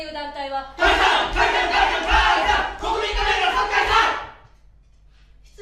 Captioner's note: shouting against constitutional amendment